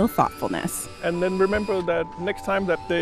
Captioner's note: tools whirring